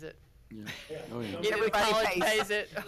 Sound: board members laughing

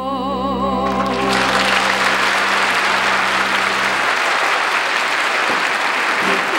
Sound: audience applauding

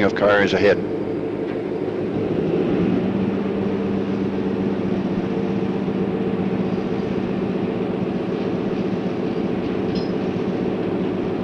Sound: sound of the train moving

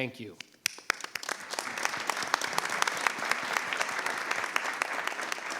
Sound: board and audience applauding

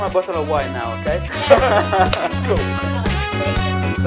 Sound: laughs

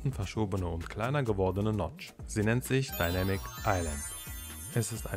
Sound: magic Sound Effect

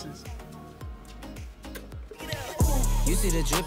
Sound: kissing; slaps; upbeat music

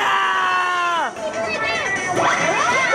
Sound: cheering

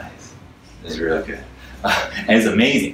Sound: laughs

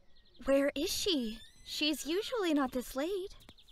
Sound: door opens

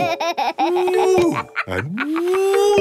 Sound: laughs

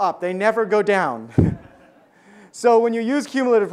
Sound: audience laughs

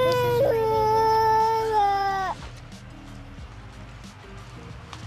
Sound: baby cooing

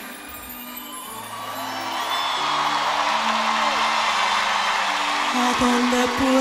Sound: aplausos

